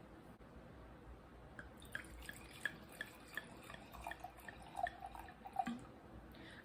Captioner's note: opening bottle; pouring wine